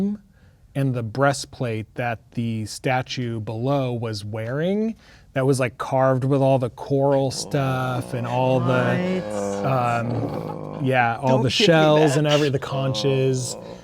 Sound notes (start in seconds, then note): 7.0 players reacting